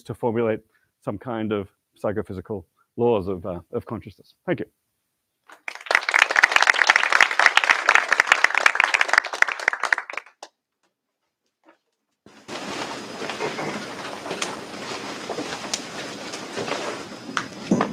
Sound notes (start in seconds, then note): 5.4 applause